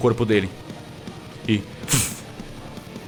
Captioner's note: woosh